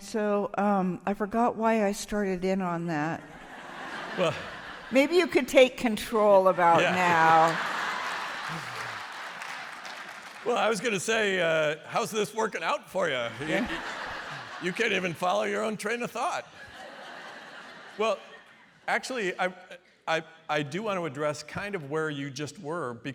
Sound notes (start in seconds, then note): 6.7 applause; 13.0 laughter